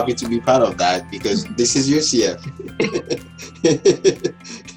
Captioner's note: laughs